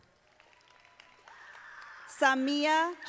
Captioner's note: audience applauding